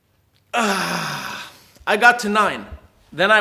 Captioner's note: groans